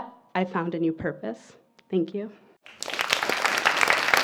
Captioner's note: applause